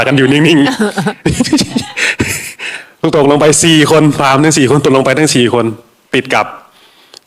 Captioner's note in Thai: เสียงหัวเราะ